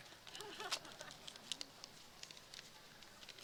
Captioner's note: chuckles